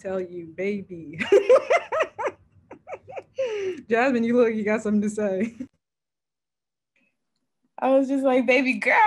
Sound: laughs

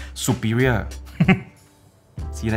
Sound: evil laughter

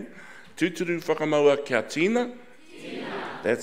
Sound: speaking in foreign language

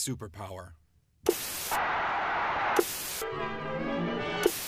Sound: static buzzes; bright classical music

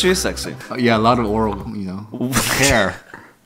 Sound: laughs

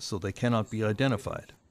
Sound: speaking Foreign Language

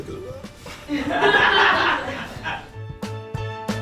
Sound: laughing; jazzy music

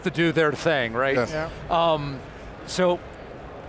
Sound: group chatter

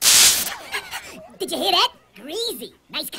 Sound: electrical sparking

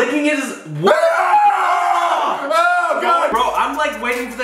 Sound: screaming

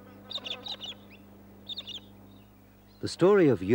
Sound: bird calls

